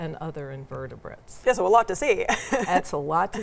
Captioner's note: laughs